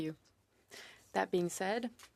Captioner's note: speaking french